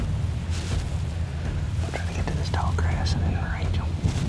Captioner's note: whispering